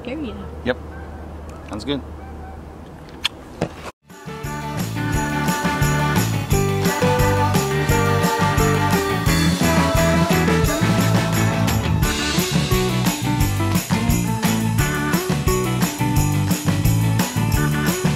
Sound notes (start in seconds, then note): 3.0 smooch; 4.2 upbeat Christmas music plays